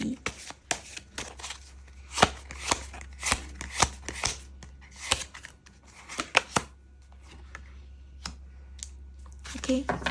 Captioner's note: shuffle cards